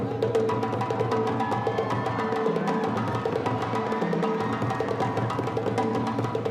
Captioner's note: energetic percussion music continues; attendees applauding and cheering